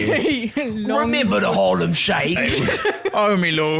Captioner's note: cockney accent